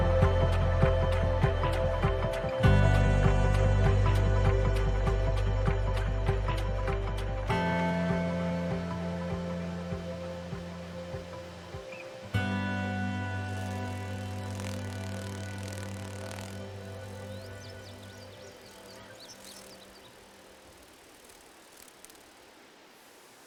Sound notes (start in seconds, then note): 13.6 wings flapping; 18.2 birds singing, flapping